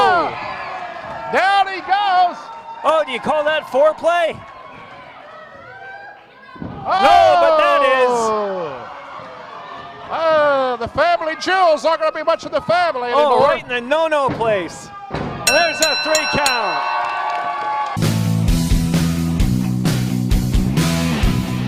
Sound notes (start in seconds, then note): 15.4 bell Sounds